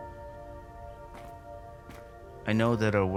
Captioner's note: shoes shuffling